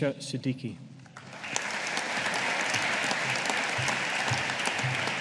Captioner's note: audience applauding